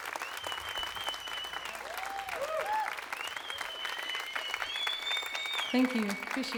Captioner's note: crowd applause